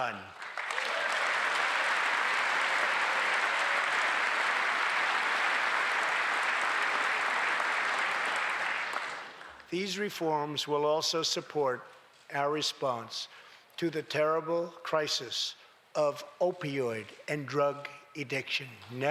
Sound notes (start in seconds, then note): 5.4 applause